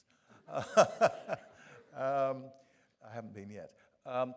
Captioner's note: professor laughing